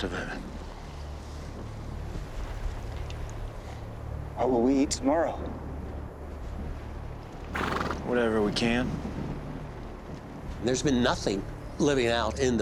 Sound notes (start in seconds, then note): 0.0 tense music; 2.3 tense music; 7.5 horse blusters